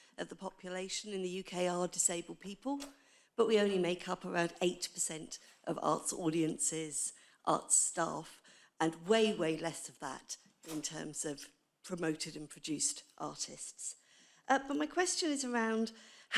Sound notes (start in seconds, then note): none